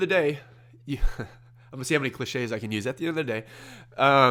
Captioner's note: laughs